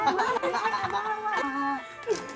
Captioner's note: all laughing